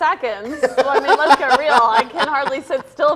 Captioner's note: laughs